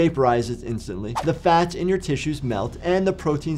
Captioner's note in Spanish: transición silbante